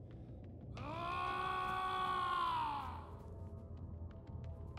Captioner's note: yelling